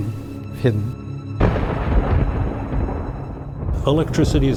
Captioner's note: thunder rumbling